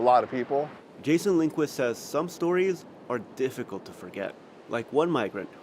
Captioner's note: voice-over